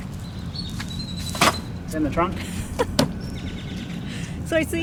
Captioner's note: cans clatter; pat, pat